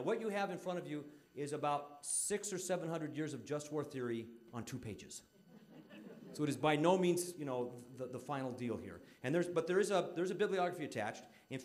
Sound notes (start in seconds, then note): 5.4 audience laughing